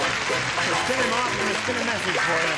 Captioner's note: applause